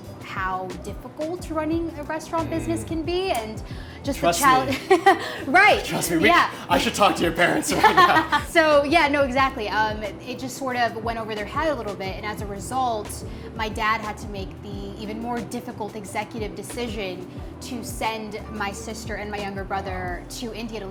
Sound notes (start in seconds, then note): 4.4 chuckles; 8.0 laughs